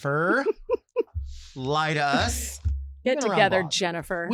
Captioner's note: laughs